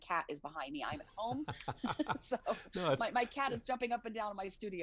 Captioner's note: laughing